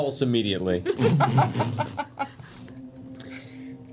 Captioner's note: spits